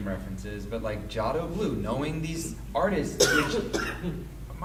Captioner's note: speaks a foreign language